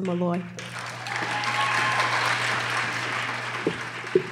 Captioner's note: applause